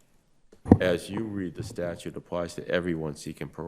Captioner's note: microphone rattling